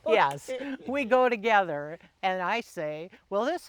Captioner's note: laughing